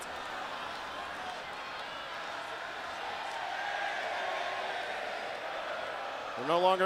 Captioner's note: crowd cheering